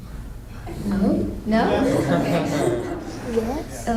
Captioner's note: laughter